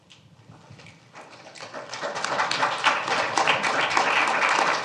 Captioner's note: applause